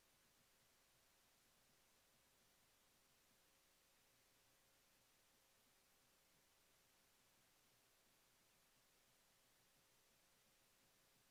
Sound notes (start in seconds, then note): none